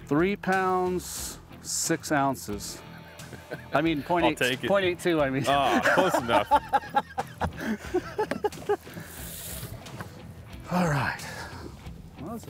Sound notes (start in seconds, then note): 3.2 both chuckle; 7.4 both laughing